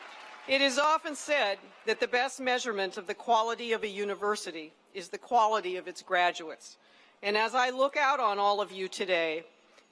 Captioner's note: cheering and applause